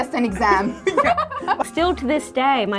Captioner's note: laughing